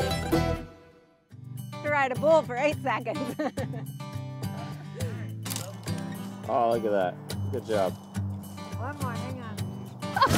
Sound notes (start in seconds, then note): 3.2 both laughing; 5.4 branch cracks; 10.1 woman laughs